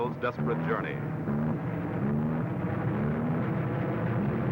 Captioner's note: engine sputtering